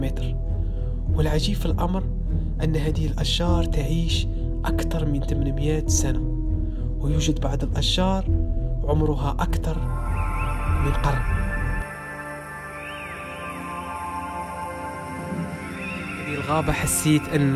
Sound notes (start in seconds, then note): none